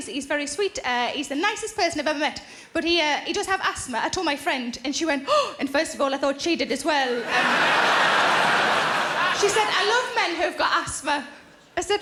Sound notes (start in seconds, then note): 5.3 gasps; 7.2 audience laughing